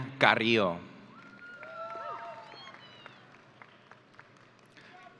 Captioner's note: audience cheering